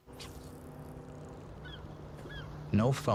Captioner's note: bird cawing